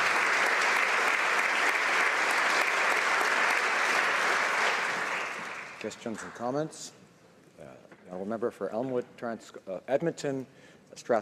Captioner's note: some Applause